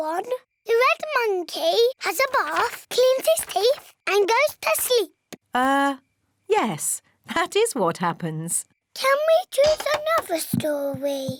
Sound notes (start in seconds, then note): none